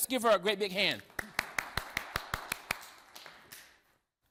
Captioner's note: applause